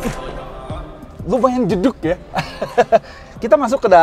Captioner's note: laughing